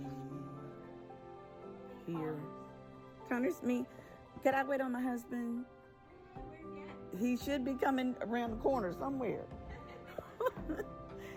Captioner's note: laughed